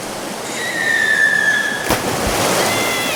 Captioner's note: Lily screaming; water splashing